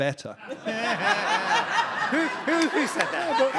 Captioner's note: audience laughing